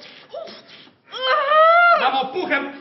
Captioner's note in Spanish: Gritos